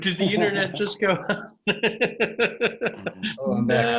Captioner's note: laughs